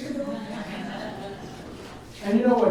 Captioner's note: audience laughs